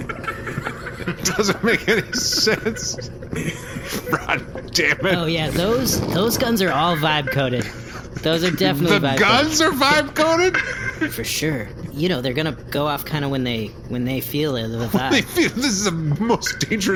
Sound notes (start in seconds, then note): 3.8 background laughter continues